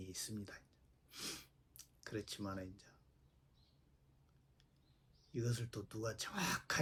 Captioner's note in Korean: 콧방귀